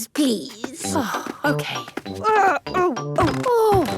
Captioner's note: groaning; exclamations